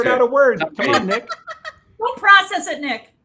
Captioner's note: laughs